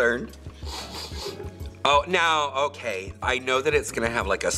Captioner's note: sniffs